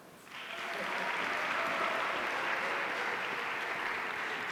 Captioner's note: audience applauding